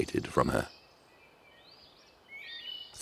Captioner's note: birds chirping